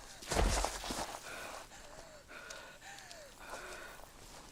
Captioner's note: Scarlet panting